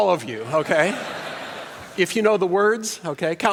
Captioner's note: laughter